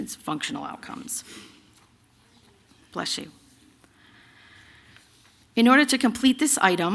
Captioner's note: sneeze from the audience